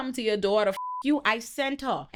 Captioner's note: beep